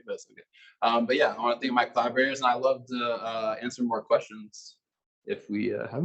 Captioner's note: male Voice